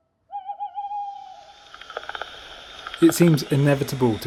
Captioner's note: tawny owl hoots; crackling of static from bat detector - fast clicking bat sounds